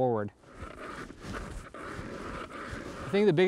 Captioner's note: sound of auger